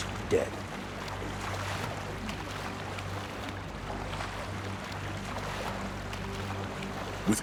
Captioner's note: water splashing